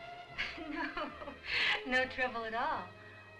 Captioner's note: chuckles